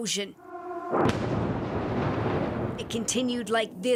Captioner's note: sound of siren